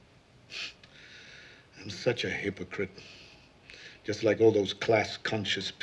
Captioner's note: scoffs